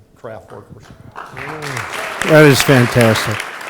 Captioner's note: applause